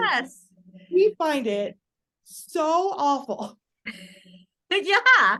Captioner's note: audible laughter